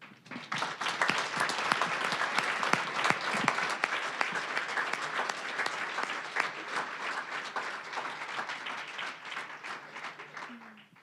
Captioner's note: applause